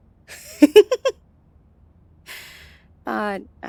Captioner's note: dramatic tone; shudders, then giggles